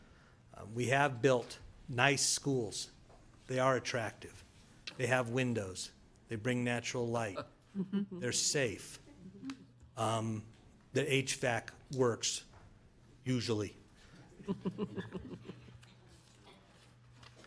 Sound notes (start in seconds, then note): 14.1 board chuckles